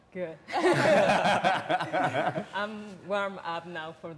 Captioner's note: all laughing